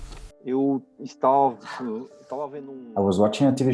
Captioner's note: speaking Portuguese